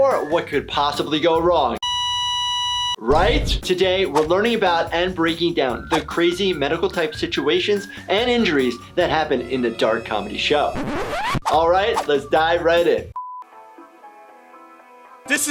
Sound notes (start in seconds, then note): 1.8 flatline beeping; 10.6 record scratching; 13.4 soothing jazz music